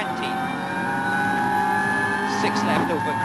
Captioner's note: engine rasping